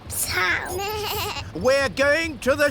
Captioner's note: suzy bleats